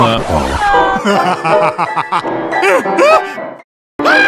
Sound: Louis psychotically laughing

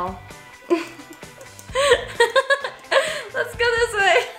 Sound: laughs

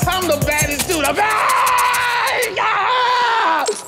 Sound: yelling

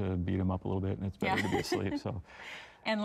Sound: laughing

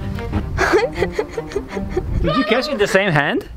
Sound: laughs nervously

